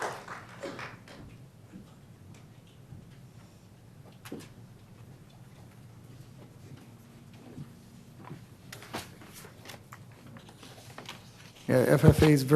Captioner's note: applause